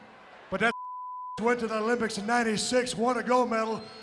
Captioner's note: beep